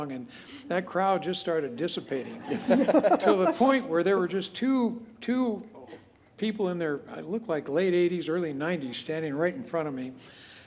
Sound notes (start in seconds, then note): 2.3 laughter